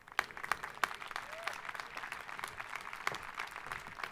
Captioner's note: crowd applauding